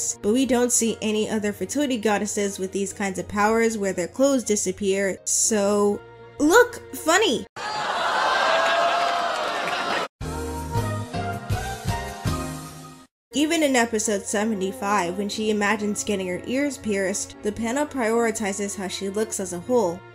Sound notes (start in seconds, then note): 7.6 sitcom audience laughter